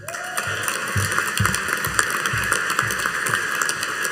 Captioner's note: audience applauding